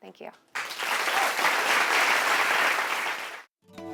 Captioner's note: applause